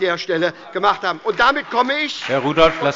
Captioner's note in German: Beifall bei der SPD